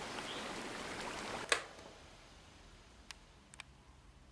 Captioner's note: click